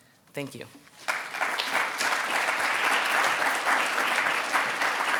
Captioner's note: audience applauding